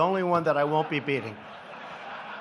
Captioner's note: laughter